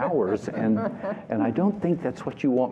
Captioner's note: laughter